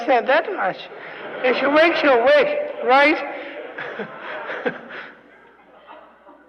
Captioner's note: laughter; laughs, laughter